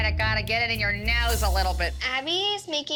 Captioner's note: nasally